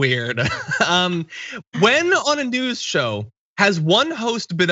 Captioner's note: laugh